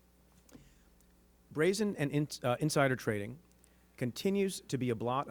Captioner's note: stutters